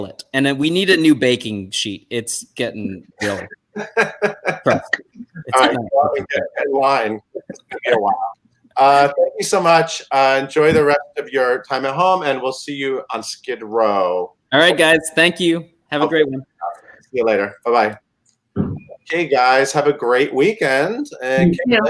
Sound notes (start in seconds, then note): 3.7 laughter